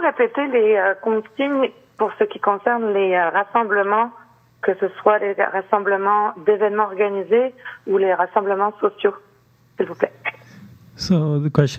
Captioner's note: speaking French